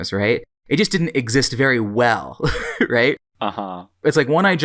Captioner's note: laughs